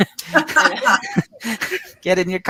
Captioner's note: everyone laughs